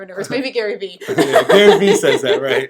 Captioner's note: laughing